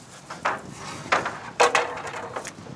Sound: clatter of wood

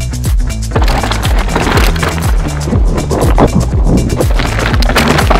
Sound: bike crunching dirt

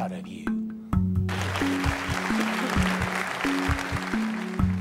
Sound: applauding

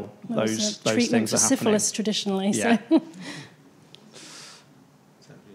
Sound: chuckles

